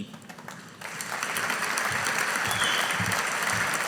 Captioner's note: audience applauding